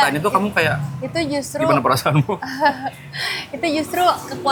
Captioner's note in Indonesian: tertawa